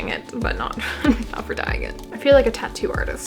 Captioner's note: laugh